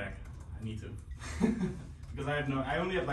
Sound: laughing

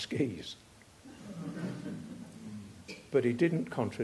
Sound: chuckling

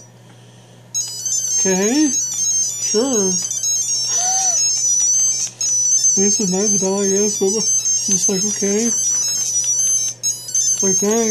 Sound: laughs

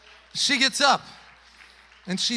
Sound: congregation applauding

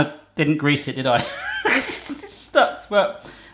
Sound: laughs

